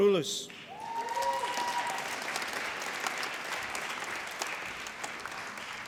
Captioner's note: applause